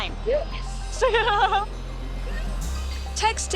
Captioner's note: laughs